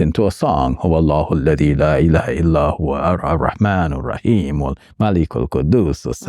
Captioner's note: speaking Arabic